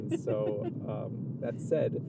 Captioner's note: laughs